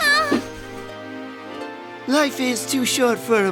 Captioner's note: gasping